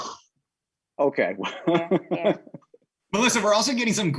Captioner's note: laughing